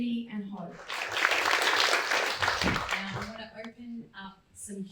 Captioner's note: crowd claps